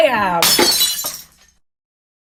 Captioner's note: glass breaks